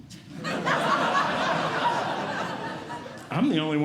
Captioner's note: audience Laughing